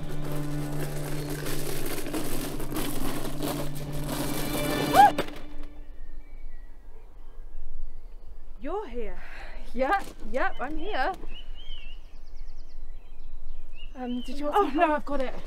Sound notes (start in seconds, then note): 4.8 A scream; 5.7 crash